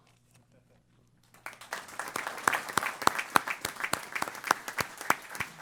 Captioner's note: applause